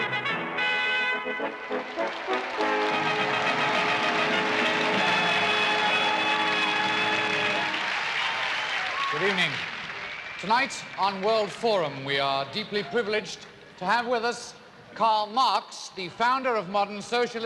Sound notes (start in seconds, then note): 4.2 crowd cheering